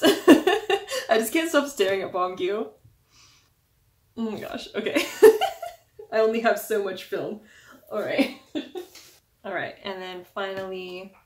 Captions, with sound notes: *laughing* I just can't stop staring at Beomgyu. Oh my gosh. Okay. *laugh* I only have so much film. Alright. *laugh* Alright. And then, finally...